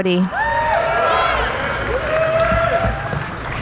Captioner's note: cheering